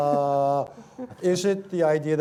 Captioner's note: laughter